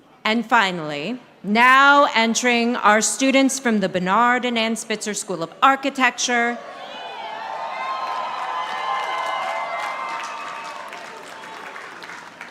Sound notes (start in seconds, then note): 7.3 audience applauding